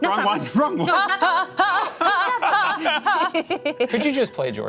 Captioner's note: laughs; exclaims repeatedly